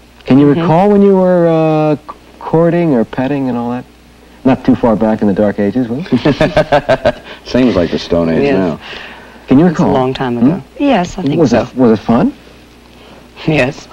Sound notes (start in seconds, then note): 6.0 laughing